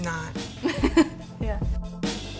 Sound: laughs

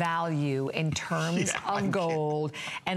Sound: laughter

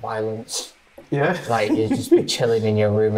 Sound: laughing

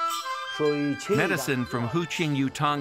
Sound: speaking Chinese

